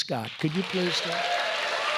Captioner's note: applause